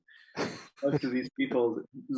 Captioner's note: laughing